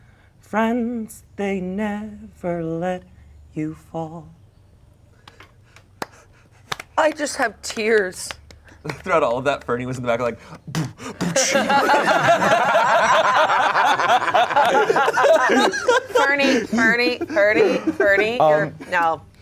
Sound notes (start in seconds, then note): 10.5 beat boxes; 10.7 everyone laughs